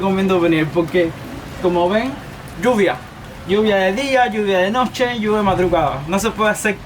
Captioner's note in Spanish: lluvia